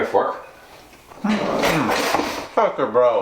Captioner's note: utensils clattering